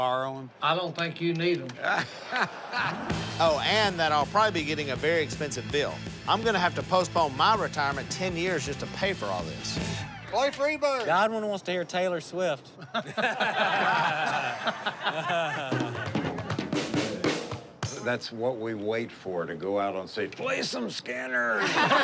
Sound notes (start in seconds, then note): 12.7 laughing